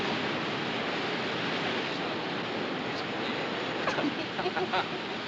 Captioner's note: Passageiros tagarelando, rindo